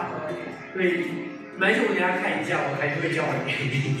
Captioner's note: talking